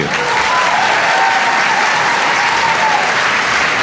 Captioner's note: applause